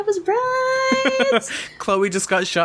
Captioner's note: laughs